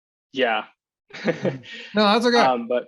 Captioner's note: chuckles